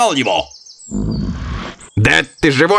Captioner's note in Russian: снисходительное фырканье